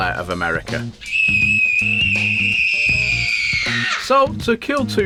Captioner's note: screaming